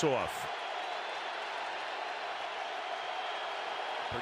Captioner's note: cheering